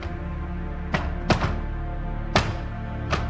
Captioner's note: hammering wood planks